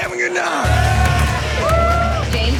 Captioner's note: cheering